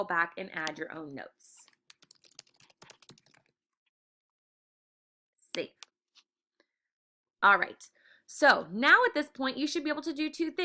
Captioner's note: typing